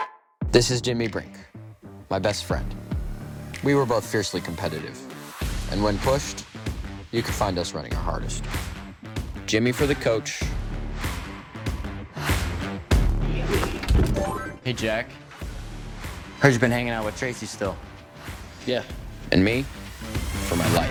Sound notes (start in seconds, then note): 10.5 upbeat music; 13.4 body thuds; 13.4 machine chimes